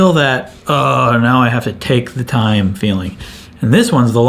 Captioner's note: groans